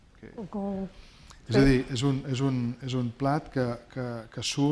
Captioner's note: speaking spanish